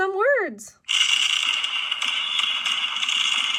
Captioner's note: fireworks exploding